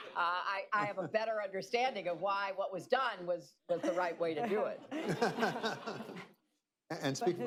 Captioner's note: laughter